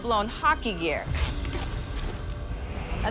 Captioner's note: gear straps creak